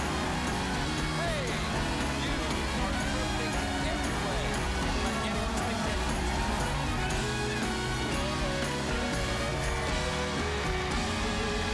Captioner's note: cheers and applause